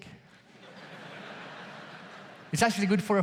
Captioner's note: audience laughs